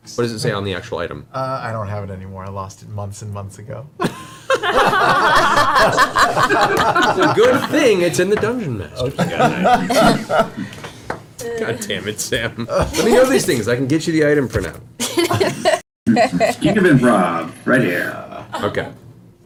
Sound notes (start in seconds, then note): 4.0 all laugh